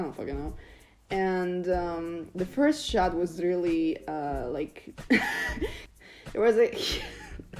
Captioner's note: starts laughing